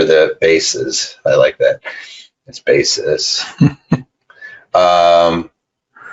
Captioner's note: laughs